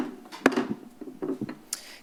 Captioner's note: bangs gavel